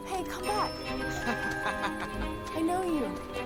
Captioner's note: man laughing